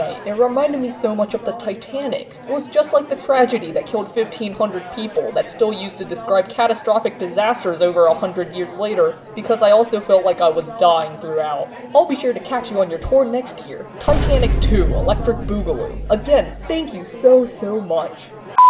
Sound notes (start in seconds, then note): 14.0 crash sound